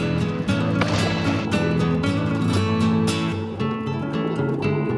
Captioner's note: water splashes; upbeat music